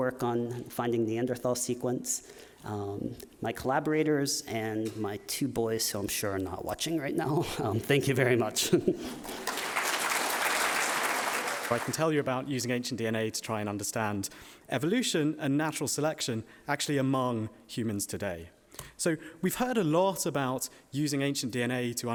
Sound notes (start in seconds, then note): 8.6 laughing; 9.1 audience applauding